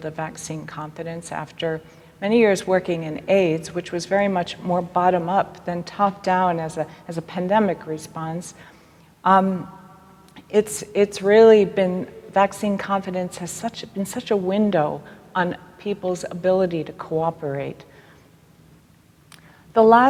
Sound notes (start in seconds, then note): none